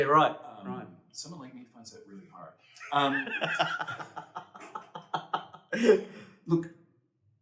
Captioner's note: laughter